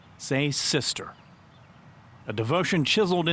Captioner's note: birds chirping